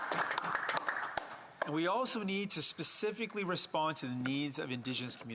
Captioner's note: some Applause